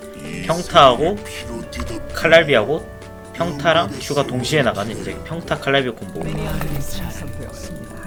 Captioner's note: hail